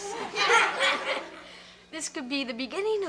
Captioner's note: audience laughs